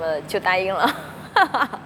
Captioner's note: laughs